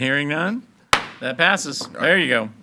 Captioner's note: gavel bangs